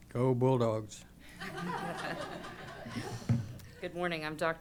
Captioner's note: laughter